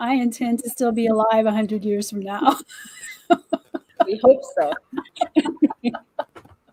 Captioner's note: laughter